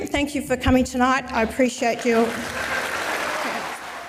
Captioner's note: audience applauds